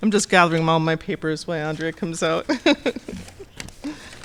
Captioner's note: chuckling; laughing